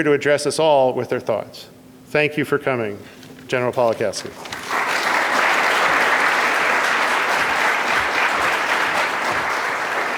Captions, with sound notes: to address us all with her thoughts. Thank you for coming, General Pawlikowski. (audience applauds)